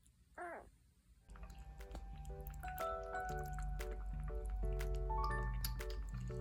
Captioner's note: slurping